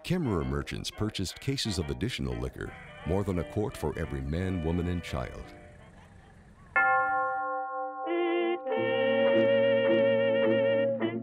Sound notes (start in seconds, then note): 6.8 chiming; 8.6 sad music